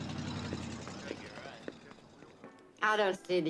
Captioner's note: indistinct chatter